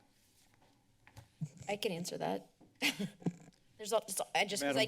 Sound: laughs

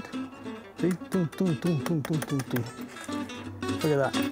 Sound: salt crunching

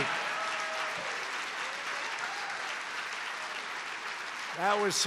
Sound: applause

